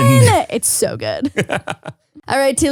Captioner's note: laughs